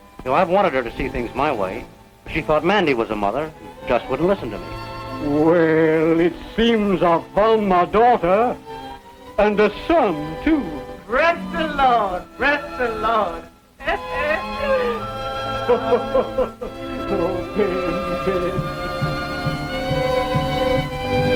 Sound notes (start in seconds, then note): 15.2 laughs; 18.7 drum beating